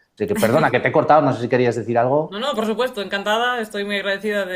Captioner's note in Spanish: carraspeo